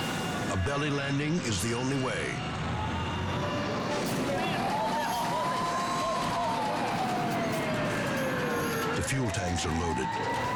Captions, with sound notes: A belly landing is the only way. (firefighters speaking in foreign language) The fuel tanks are loaded.